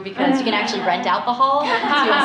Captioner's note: laughter